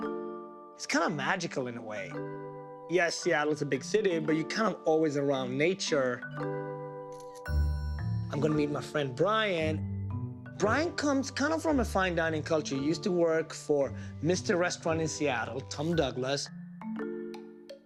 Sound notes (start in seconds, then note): 6.0 camera shutter clicks